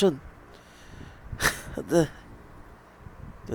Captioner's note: chortled laugh